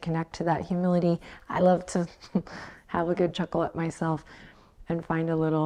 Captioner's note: chuckles